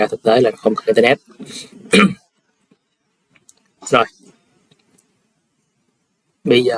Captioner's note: clears throat